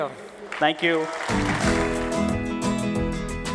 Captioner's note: applause